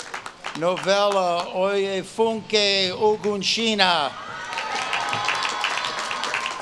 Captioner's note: audience claps and cheers